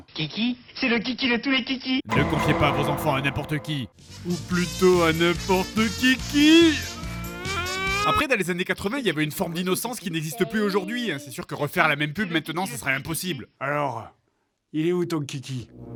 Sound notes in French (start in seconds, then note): 6.7 rire exagéré